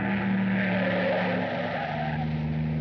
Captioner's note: none